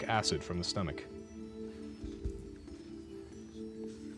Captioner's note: whispering